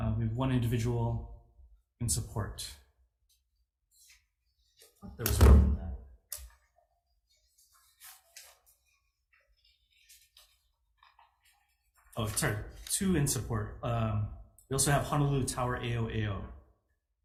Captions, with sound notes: we have one individual in support. There was one from that. (papers rustling) Oh sorry, two in support. We also have Honolulu Tower AOAO.